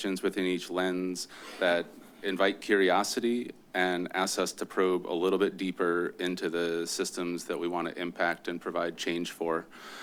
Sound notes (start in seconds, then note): none